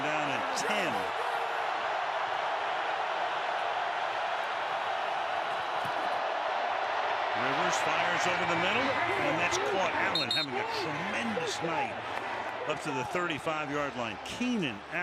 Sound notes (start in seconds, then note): 5.1 cheering